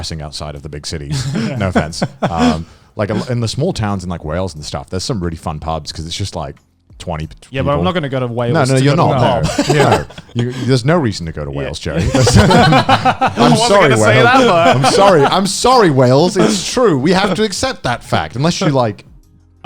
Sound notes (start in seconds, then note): 8.5 laughing